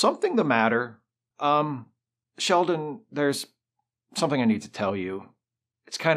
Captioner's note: hesitantly